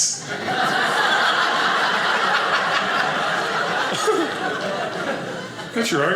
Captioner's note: audience laughing